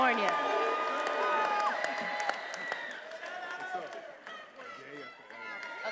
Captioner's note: attendees applauding and cheering